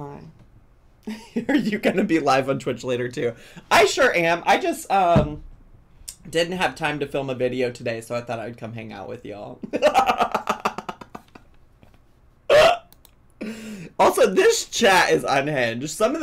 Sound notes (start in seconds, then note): 9.6 laughs